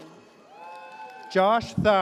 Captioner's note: audience cheers